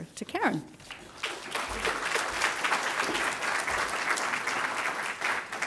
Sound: applause

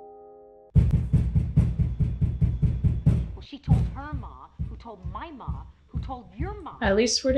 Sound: rhythmic thuds

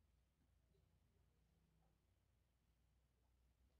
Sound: none

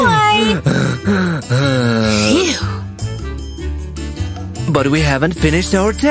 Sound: heavy breathing

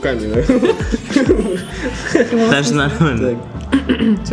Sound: all laughing because it's true & relatable

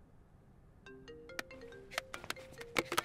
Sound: phone ringing

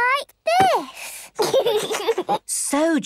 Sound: giggles

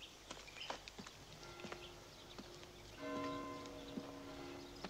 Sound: bells chiming

